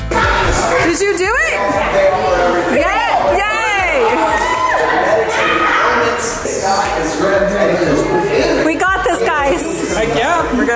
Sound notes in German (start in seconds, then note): 4.7 Leute plaudern